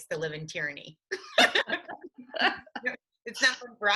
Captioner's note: laughing